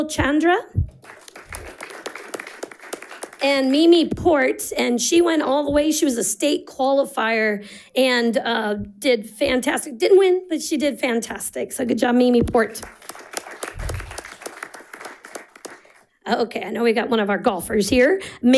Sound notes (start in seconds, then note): 0.9 audience applauding; 12.7 audience applauding